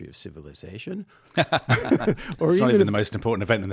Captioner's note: all chuckling